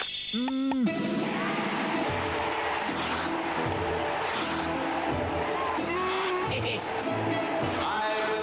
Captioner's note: scream; upbeat music; scream